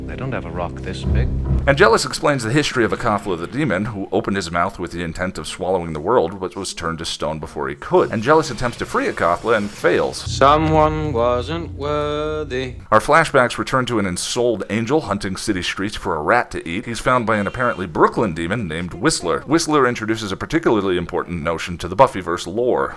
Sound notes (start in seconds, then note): 10.5 sing-songedly